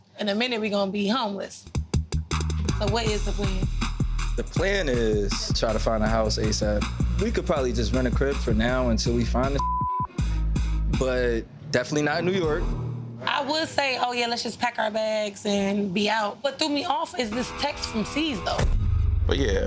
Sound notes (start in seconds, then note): 9.6 beeps